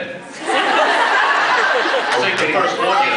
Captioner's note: laughs